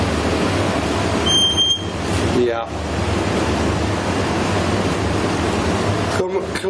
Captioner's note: device beeping